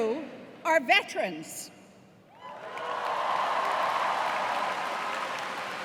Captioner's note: cheers and applause